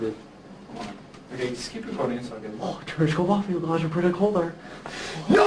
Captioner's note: mockingly speaking gibberish